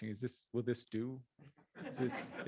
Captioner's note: chuckling